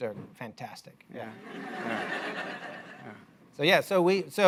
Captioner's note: laughter